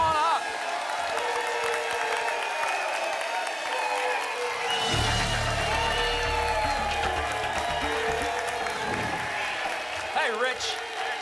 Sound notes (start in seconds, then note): 0.2 applause and cheering; 8.8 whoosh